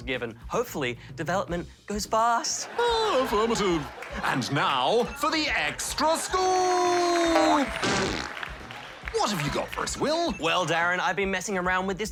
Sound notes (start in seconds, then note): 2.7 laughs; 6.0 applause